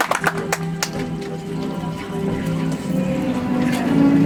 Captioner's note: audience applauds; soft music